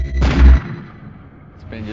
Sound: gun shot

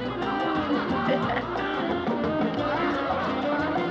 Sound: giggles

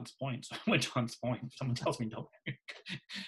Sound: laughs

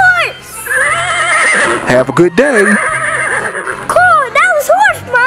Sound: horse neighs

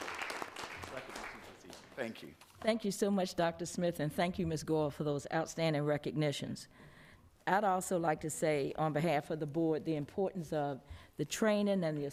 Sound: applause

